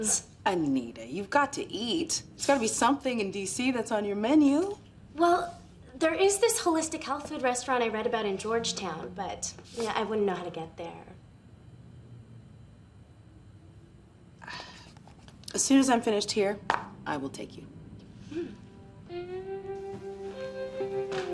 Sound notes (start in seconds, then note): 14.4 sighing